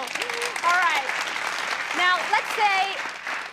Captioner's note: audience applauds